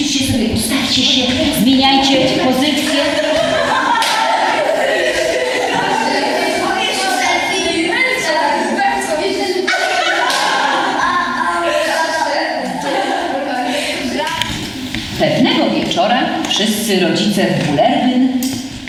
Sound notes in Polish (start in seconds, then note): 3.3 śmiech